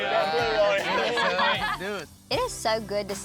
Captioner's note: laughter